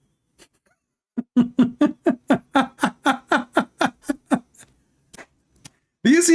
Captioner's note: Ketawa